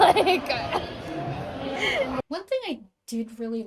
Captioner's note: laughing